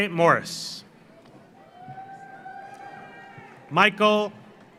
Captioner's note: audience cheers; audience applauds